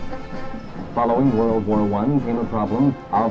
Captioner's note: voiceover